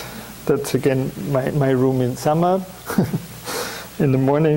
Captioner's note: chuckles